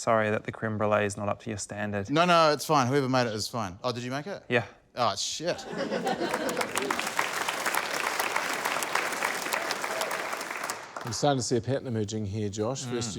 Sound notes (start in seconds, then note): 5.5 laughter; 6.0 applause